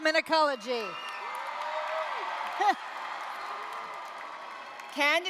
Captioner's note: applause, cheering